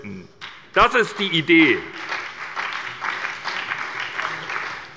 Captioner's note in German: Beifall bei der SPD und dem BÜNDNIS 90/DIE GRÜNEN